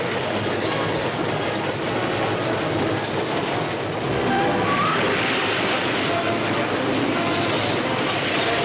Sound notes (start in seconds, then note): 4.1 screeching